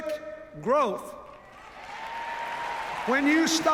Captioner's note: cheers, applause